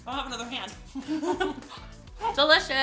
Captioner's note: laughing